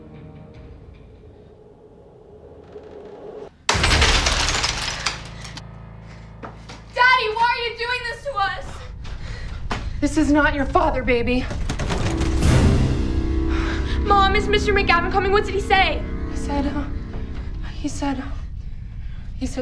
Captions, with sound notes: (mug crashes) - Daddy, why are you doing this to us? - This is not your father, baby. (objects rattling) - Mom, is Mr. McGavin coming? What did he say? - He said, he said...